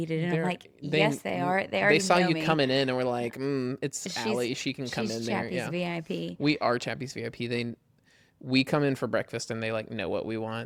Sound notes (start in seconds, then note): none